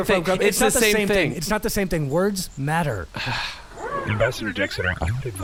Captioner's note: sighs